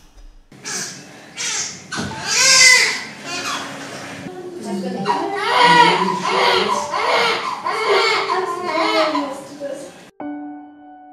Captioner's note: baby screaming